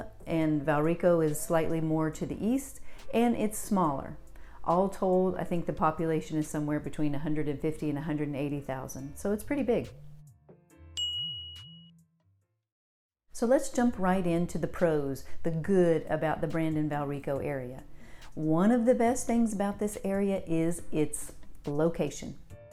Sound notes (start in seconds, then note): 11.0 bell dings